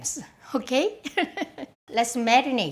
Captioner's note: laughs